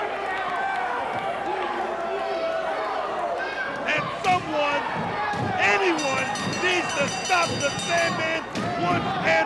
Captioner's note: crowd cheering